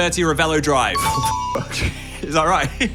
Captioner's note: successful chiming